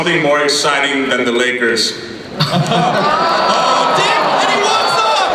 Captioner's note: voiceover; audience groans